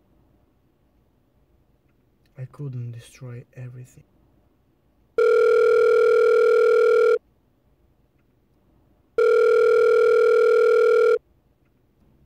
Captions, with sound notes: I couldn't destroy everything. (phone rings) (phone rings)